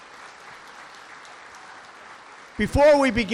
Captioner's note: applause